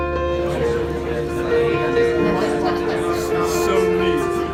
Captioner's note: people chattering